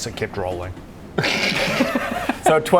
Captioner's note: logical laughter